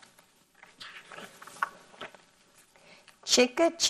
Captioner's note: paper rustles